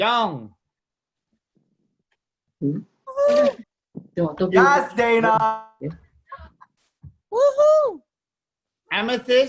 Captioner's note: cheering